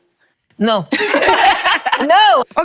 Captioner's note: laughing